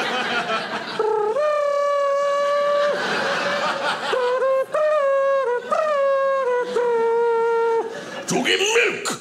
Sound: softly mimics trumpet music

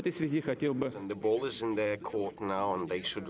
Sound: speaking Foreign Language

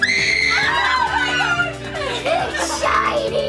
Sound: screaming

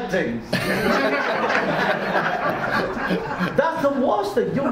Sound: audience laughs

